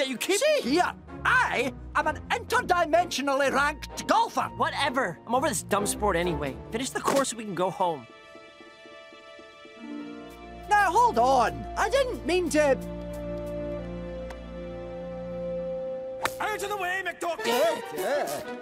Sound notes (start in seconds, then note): 16.2 whack